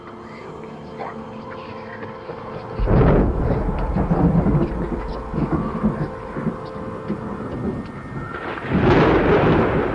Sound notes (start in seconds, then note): 0.5 thunder rumbles; 0.5 whispering voices